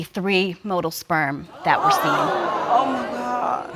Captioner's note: audience exclaim